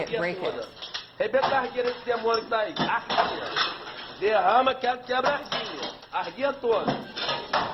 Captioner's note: speaking portuguese